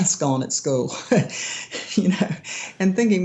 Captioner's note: laughing